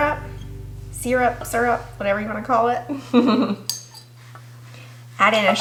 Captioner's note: laughs